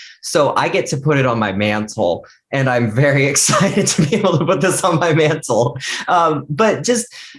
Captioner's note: laughs